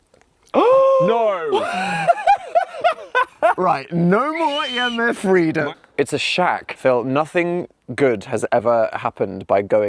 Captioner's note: gasps